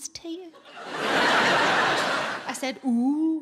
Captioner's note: audience laughing